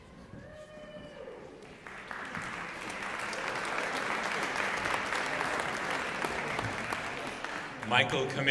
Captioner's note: applause